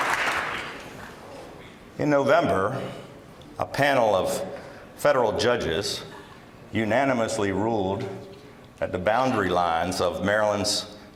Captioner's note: applause